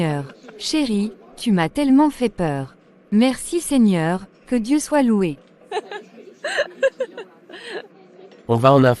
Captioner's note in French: rires